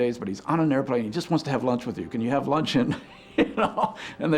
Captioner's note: laughing